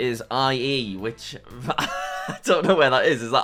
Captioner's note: laughs